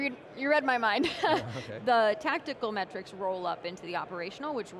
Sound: chuckling

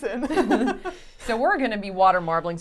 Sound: all chuckling

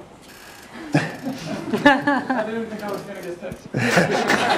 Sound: laugh

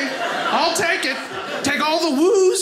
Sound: audience laughing

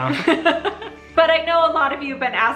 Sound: laughs

